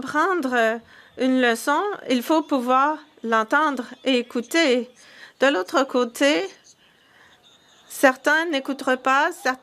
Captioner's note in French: voix de l'interprète